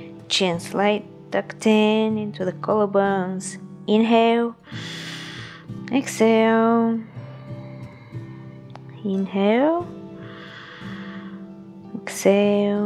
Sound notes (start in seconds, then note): 4.6 inhales; 7.3 exhales; 10.1 exhales